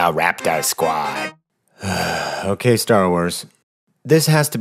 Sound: sigh

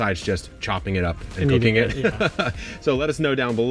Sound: laughs

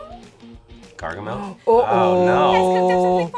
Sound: gasps

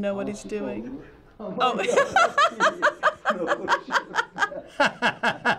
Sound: laughing

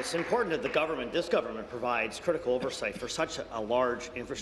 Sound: applause

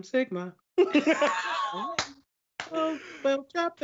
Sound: laughs

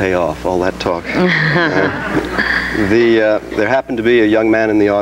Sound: audience giggles

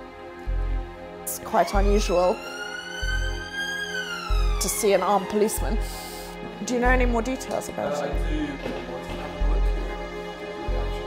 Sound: sirens

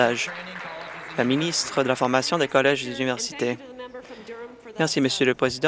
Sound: applause

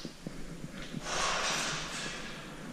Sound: noises in the staircase

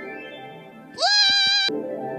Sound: Mabel Pines Yelling in Fear

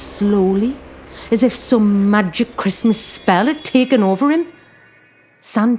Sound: twinkling

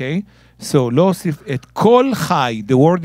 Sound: speaking in Hebrew

